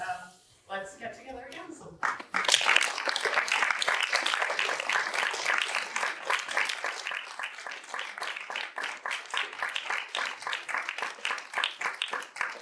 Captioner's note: applause